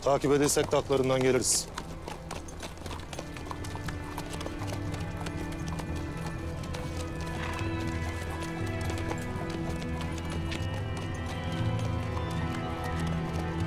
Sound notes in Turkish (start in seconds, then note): 1.9 Atların ayak sesi